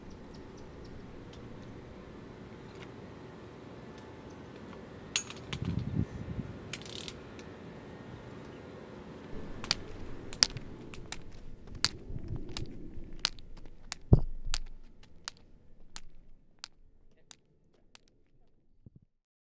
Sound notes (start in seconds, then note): 3.7 cane unfolds; 7.3 cane strikes the ground